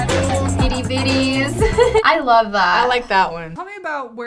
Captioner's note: laughs